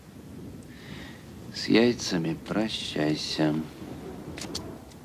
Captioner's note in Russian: вполголоса